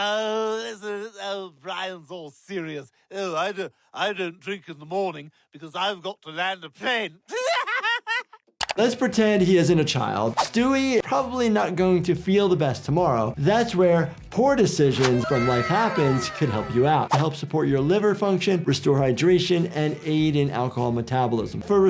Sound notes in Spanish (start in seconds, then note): 7.2 risas